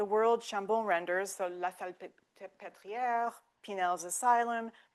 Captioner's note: speaking French